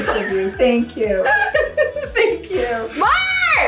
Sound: all laughing

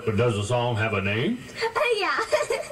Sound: laughs

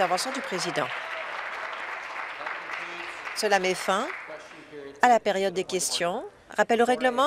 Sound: applause

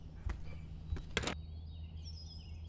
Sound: door

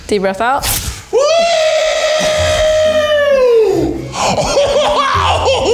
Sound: screams

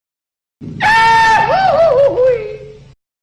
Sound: Goofy holler

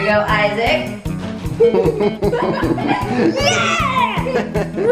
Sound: laughing

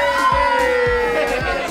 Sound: girls scream; group members and girls talking

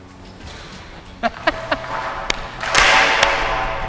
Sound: laughs

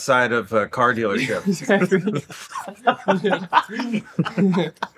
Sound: everyone laughing

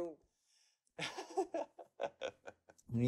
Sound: laughs

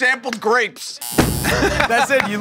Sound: buzzer

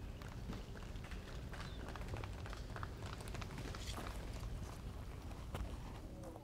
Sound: cheering

